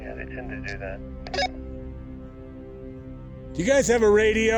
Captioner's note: radio chirps